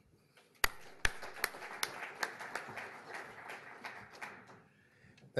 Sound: applause

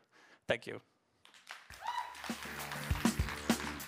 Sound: applause

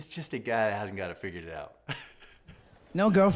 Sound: laughs

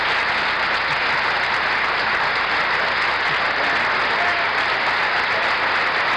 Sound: applause continues

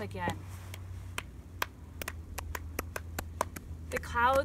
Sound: soft clapping sounds

